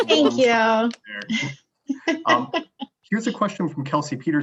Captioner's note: laughs